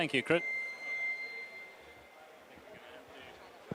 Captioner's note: mic gives feedback